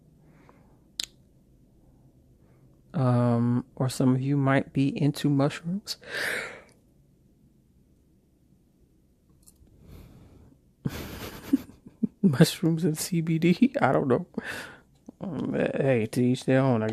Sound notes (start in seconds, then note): 8.3 yawning -- sorry!; 10.8 chuckles